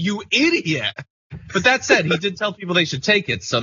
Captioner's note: laugh